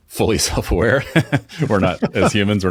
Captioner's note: laughing